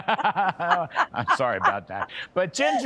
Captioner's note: laughter